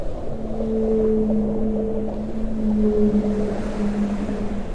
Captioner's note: whales sing